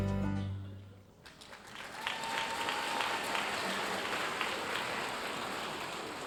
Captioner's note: audience cheering and applauding